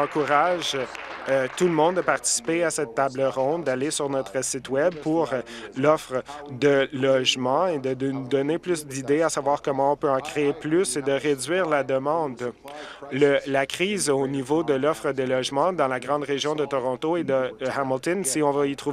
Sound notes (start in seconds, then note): 2.2 some applause